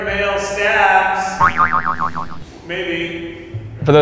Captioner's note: boing